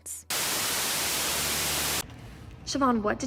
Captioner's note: static buzzes